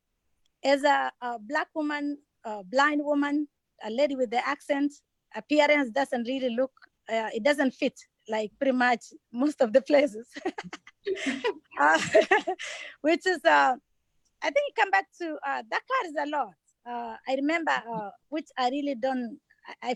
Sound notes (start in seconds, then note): 10.4 laughs